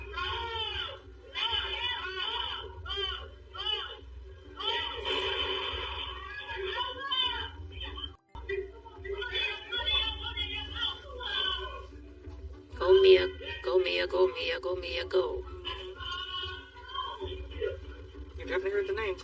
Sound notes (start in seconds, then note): 2.4 TV static hisses; 3.1 suspects shoutingng incoherent